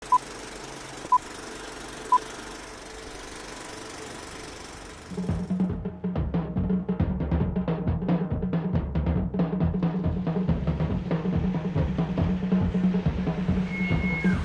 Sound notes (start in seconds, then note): 0.0 video countdown, projection sounds; 9.5 sounds of a truck driving and backing up